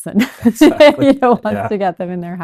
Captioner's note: laughs